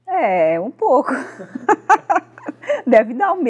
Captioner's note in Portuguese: risos